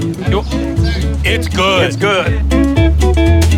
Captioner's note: multiple Voices; cheerful guitar music